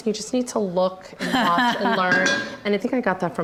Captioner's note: laughs